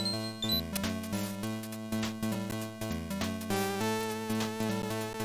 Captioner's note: beep beep